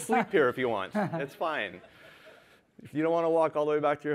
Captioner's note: laughter